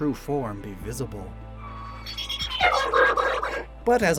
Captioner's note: Regimind’s cry